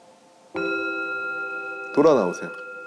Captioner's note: ding